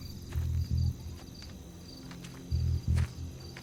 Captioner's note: none